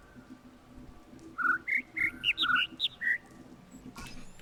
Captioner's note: overlapping birds chirping, ˥ ˧ ˥ ˩